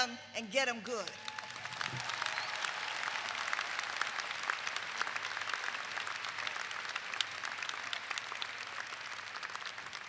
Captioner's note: clapping